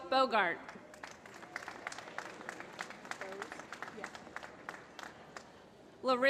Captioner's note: applause